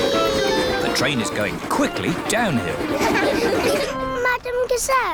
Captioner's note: laughter